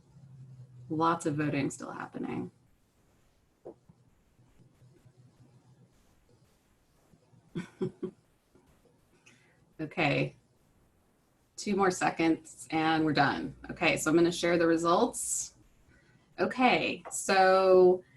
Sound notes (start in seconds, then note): 2.5 laughter